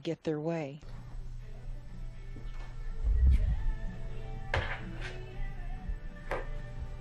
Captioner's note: whining